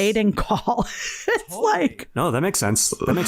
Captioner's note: laughs